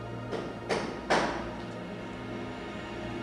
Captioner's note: knocking on door